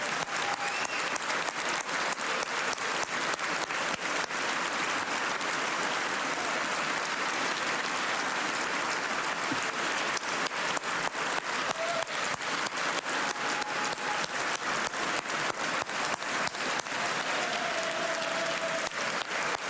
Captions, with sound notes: ANTIHUMAN TRAFFICKING UNIT. FOR THAT AND SO MUCH MORE THAT SHE DOES EVERYDAY, I SAY THANKS. [ CHEERS AND APPLAUSE ]